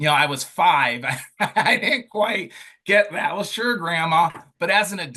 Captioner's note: laughing